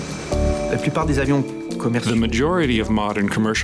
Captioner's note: speaking in foreign language